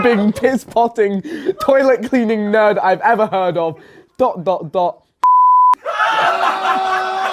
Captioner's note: beep; audience laughs